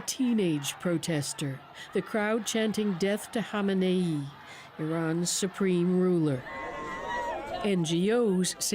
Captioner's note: shouting